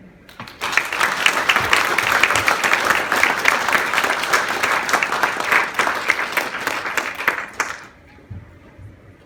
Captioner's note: applause